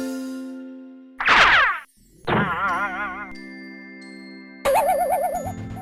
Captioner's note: cartoon sound effects